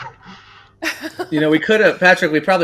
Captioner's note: laughs